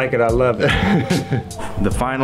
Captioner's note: laughs